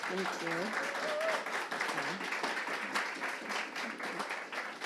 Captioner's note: audience applauding